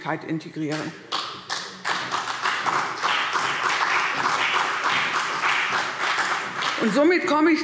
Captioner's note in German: Beifall CDU und BÜNDNIS 90/DIE GRÜNEN